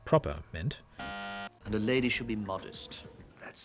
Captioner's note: bzzt